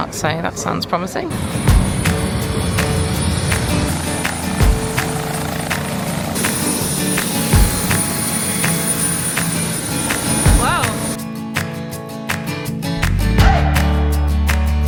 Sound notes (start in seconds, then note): 1.2 helicopter whirs; 1.4 bright music; 14.7 bright music continues